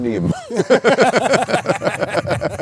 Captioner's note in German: Gelächter